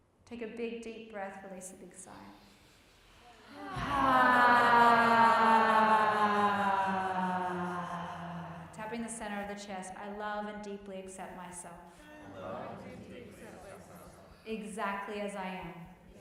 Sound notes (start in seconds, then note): 3.0 all sigh slowly